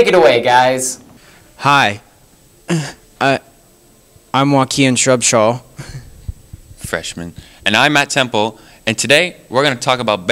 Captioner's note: clears throught